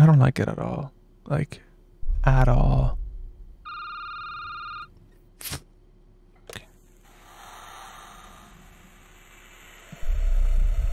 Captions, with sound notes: I don't like it at all, like at all. (phone ringing) (breathing)